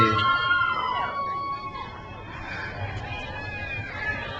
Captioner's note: crowd cheers